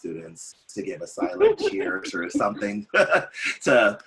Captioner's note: laughs